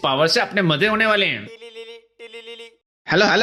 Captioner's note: baldy phone ringing